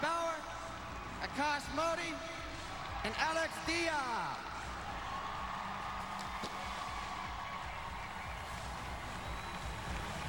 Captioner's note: cheers and applause